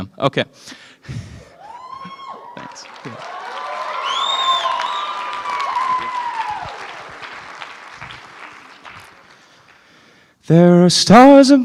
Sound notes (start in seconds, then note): 1.6 cheering; 3.5 applause